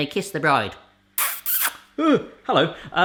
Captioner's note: smooching